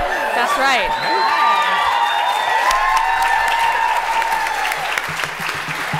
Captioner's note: cheering